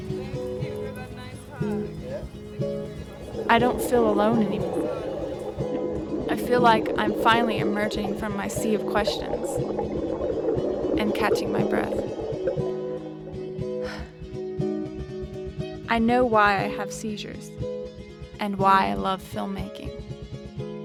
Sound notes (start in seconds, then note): 13.8 exhale sound